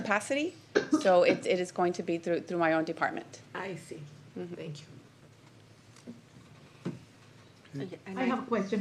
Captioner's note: clears throat